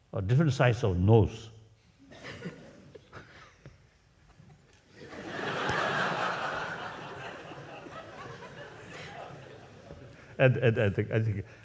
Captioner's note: laughs